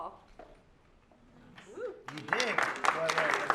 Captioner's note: applause